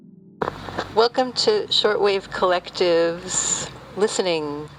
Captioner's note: radio fuzz